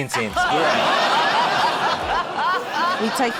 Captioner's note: laughter